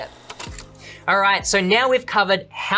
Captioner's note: shutter clicking